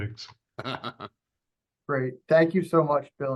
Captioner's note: laughs